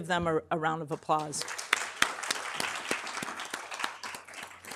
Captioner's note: everybody clapping